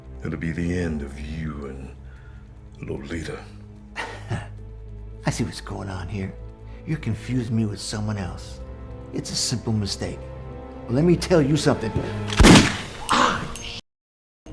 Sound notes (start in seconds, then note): 3.9 chuckles; 12.3 gun fires